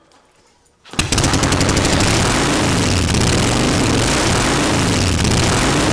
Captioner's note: motorcycle engine revving up